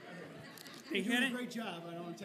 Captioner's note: laughing